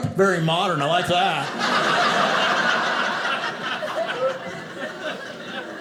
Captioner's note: audience laughing